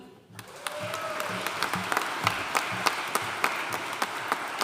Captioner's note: audience cheering and applauding